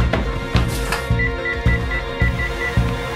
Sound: dialing phone

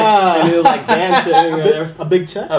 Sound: laughs

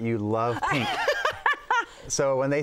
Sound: laughs

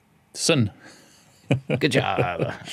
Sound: laughs

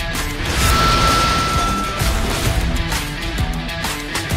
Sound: train whistle blowing; exciting music continues

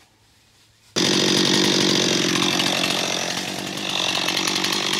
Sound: engine growling

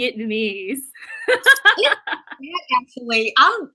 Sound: laughing

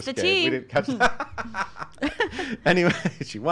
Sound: laughs

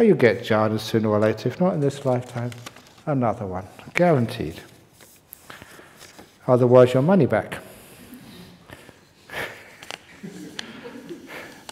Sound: chuckles

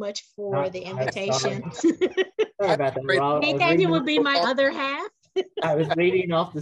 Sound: laugh

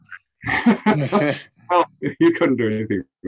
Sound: laughs

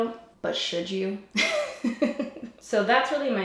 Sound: laughs

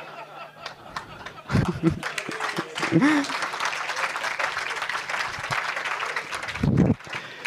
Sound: laughter; applause

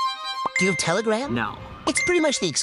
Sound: tense string music; text pings

